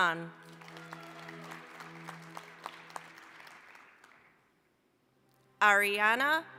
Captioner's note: applause